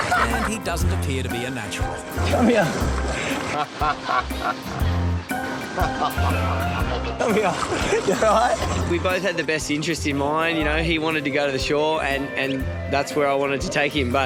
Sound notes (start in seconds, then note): 3.8 laughing